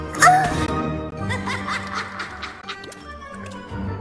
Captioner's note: evil SOUP laugh